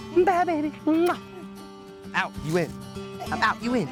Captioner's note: smooches